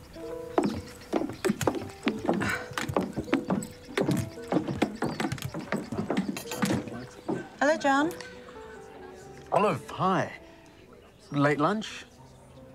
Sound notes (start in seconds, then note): 2.4 grunts